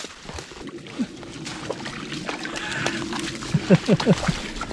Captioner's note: water splashes